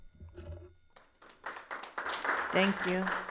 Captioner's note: audience applauds